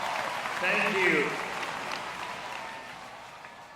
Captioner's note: applause